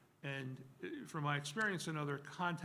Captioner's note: none